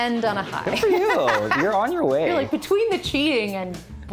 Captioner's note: laughs